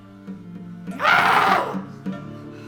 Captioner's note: Haman screams